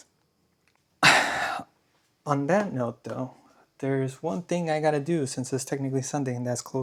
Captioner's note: sighs and gasps